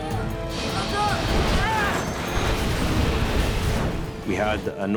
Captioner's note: plane crashes